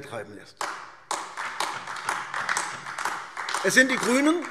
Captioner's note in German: Beifall AfD